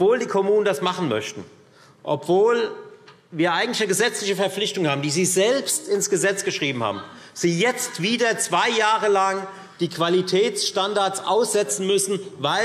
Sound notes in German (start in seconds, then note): none